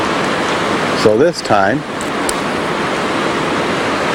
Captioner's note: water splashing